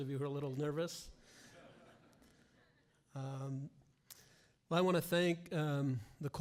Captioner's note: laughter